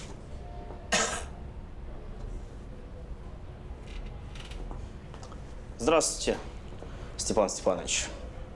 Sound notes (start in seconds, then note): 0.9 coughs